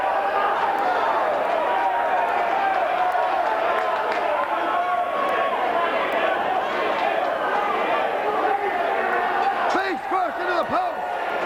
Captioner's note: crowd chatter